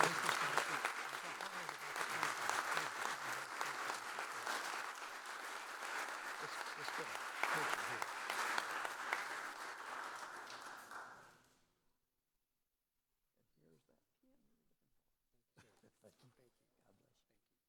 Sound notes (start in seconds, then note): 3.9 applause